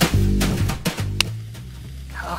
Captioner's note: jazz music; clap